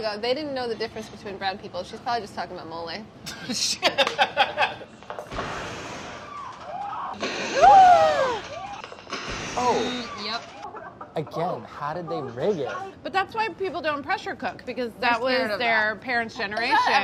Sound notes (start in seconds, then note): 3.5 laughs; 5.3 explosion in the movie scene; 7.2 both gasp with explosion